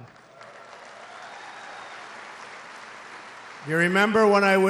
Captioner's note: applause